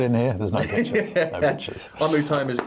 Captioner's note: laughs